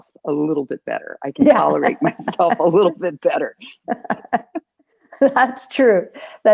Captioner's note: laughter